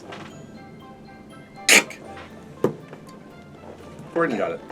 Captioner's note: crack noise